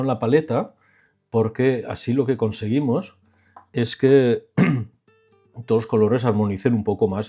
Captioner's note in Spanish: carraspeo